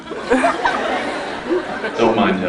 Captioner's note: scattered laughs